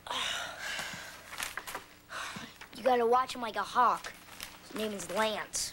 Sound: both sigh

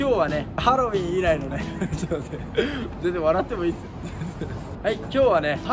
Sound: the cameraman is laughing

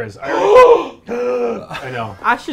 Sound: gasps

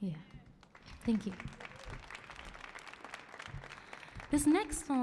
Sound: audience cheering

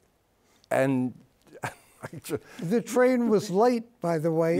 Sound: chuckles

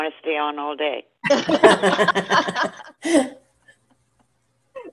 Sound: laughing

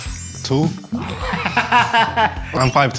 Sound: laughing

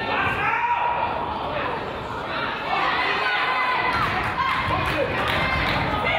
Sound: crowd applauds

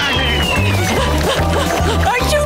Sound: panting

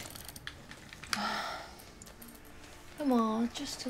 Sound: sighs

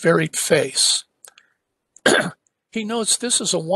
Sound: cough

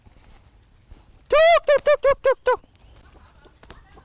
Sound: immitates a chicken's voice

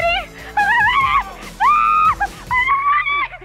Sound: screaming

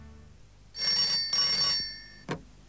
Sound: phone rings

